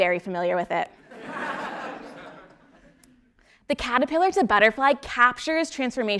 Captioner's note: laugh